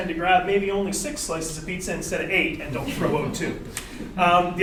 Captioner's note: audience laughter